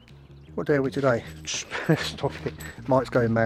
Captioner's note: laughs